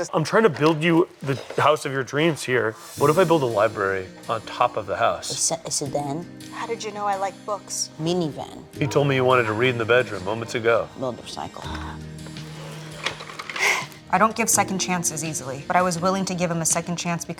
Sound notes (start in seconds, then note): 12.0 gentle rolling music; 13.5 laughing